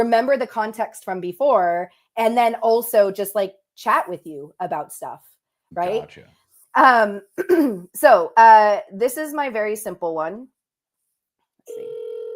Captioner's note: phone ringing